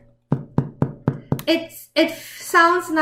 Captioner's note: tapping